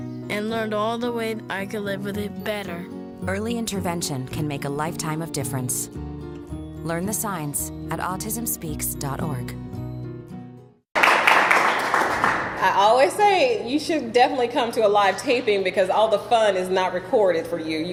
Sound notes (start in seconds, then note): 10.9 audience clapping